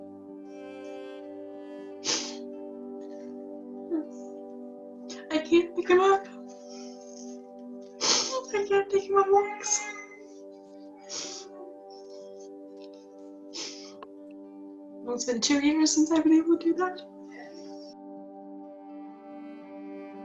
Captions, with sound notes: (gentle music) (sobs) I can't pick him up. (gentle music) I can't take him on walks. (gentle music) Well, it's been two years since I've been able to do that. (gentle music)